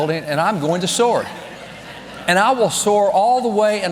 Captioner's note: congregation laughing